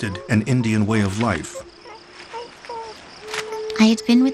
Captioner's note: baby babbles